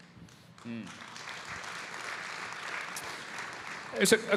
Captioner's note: audience applauding